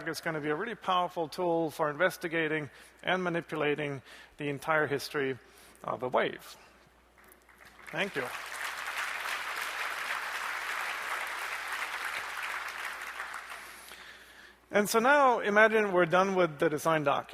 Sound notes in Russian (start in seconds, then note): 8.8 аплодисменты